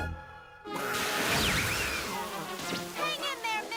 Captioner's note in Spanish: chorro de agua